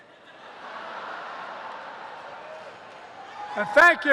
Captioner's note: laughter